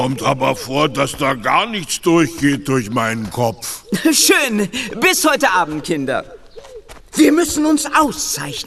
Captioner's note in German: gelächter